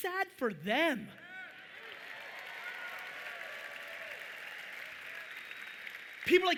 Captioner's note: audience applauding loudly